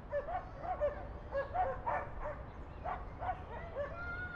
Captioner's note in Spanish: Sonido de voces de niños, ladrido de perros